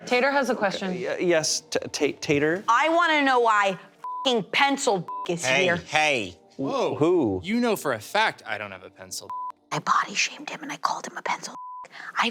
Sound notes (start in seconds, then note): 5.0 beep; 9.3 beep; 11.5 beep